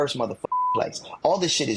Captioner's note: beep